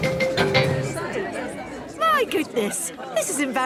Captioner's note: all murmuring